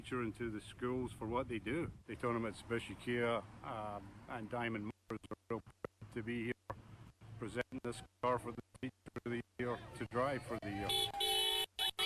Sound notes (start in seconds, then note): 5.2 mutters; 10.8 car honking